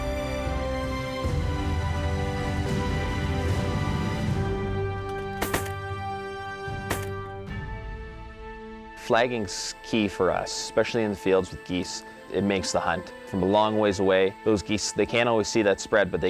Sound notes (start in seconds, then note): 5.2 gun shots